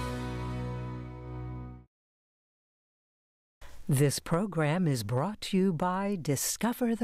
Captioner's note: voiceover